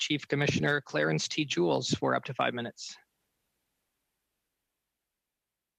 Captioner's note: speaking French